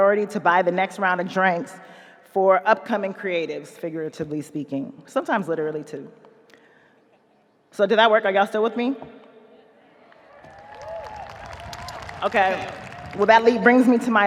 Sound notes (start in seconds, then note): 10.1 audience applauding; 10.3 audience cheering